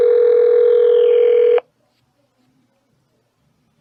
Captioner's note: phone still ringing